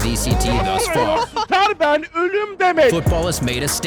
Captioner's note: foreign shouting and laughter